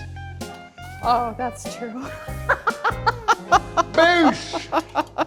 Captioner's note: laughs